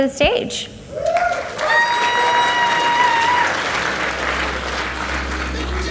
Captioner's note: audience cheers and applauds